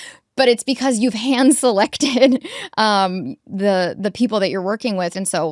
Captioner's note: chuckles